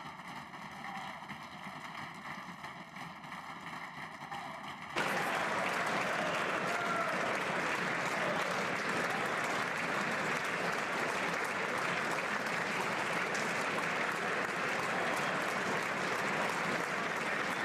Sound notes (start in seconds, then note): 1.2 applause